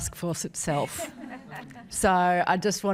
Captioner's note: audience laughs